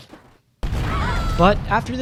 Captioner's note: explosion booming; women screaming